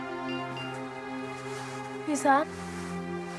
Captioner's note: phone beeps